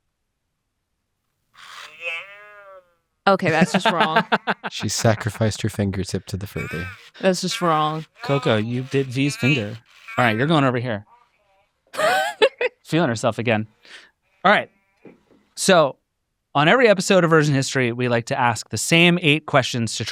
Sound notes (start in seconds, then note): 1.6 Coco babbling; 11.9 laughs